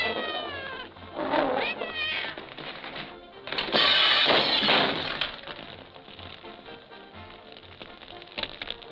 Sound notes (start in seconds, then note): 3.5 glass breaking